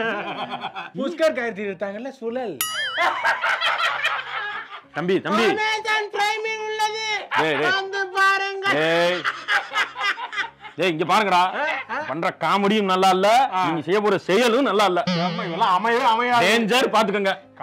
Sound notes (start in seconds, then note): 2.9 side kicks laugh; 8.7 irritating laugh